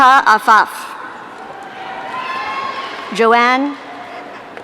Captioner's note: audience cheering